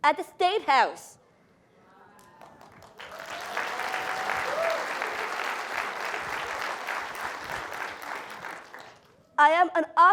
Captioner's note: applause